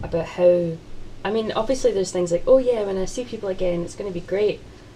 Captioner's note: none